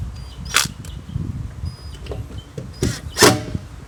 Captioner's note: drilling